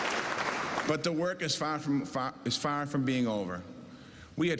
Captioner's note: cheers and applause